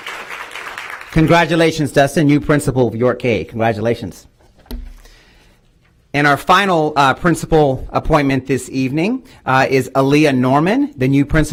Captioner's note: applause